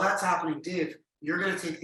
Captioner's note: none